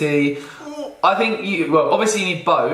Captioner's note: grunts